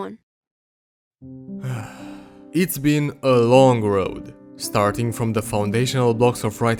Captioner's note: loud exhale